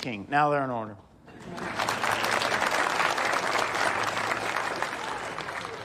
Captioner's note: audience applauding